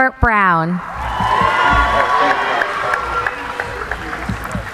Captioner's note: cheering